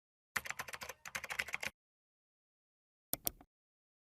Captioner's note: keyboard typing